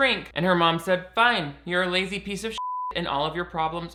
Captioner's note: beep